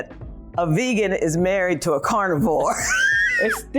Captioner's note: laughs